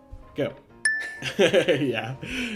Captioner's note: dinging